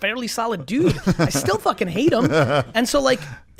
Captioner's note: laughs